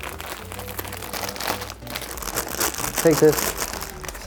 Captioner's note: packet crackling